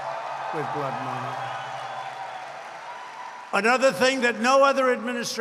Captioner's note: applause